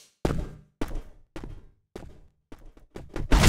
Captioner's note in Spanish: pasos